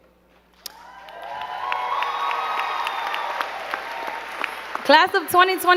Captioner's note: crowd cheering and clapping